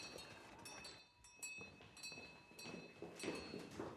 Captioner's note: doorbell